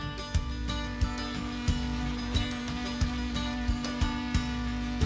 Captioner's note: upbeat bright music; grinder buzzing